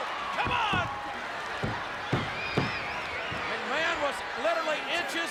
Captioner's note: audience cheers